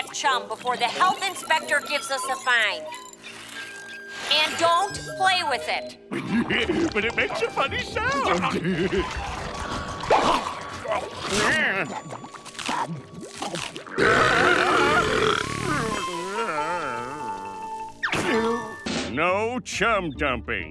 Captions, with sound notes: before the health inspector gives us a fine. And don't play with it. But it makes a funny sound. [chuckles] [belching]